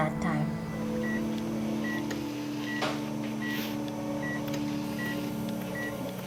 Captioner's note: ventilator machine beeping